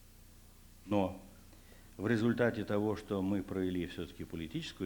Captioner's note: non-english speech